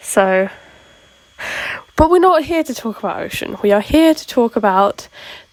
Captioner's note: inhale